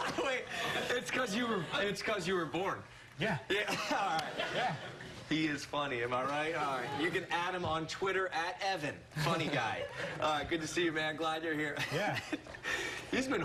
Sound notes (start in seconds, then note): 3.6 laughter